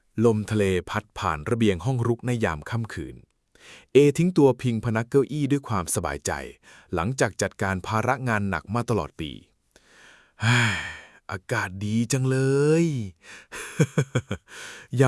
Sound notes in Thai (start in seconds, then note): 9.8 เสียงหายใจอ้าปากค้าง; 10.4 เสียงถอนหายใจ; 13.4 เสียงหัวเราะ